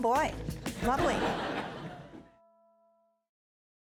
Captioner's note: audience laughing